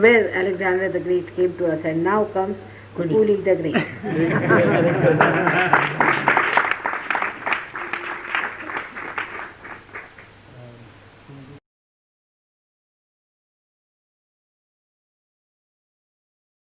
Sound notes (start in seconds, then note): 4.1 cheers, laughter & claps; 4.1 चियर्स, हँसी और ताली